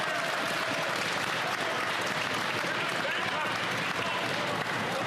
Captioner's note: yelling; applause